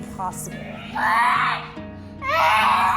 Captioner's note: body shrieking